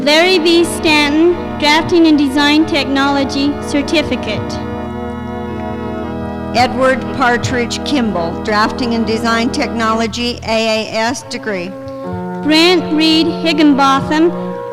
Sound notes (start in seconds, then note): none